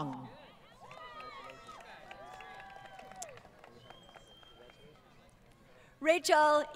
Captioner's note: applause